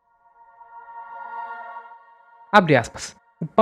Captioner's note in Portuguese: grito